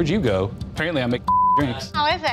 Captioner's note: beep